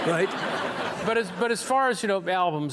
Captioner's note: audience laughs